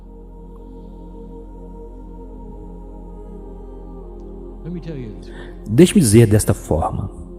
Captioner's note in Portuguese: suspira e respira fundo